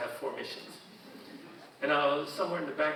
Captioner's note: audience chuckling